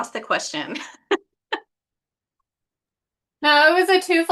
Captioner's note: chuckles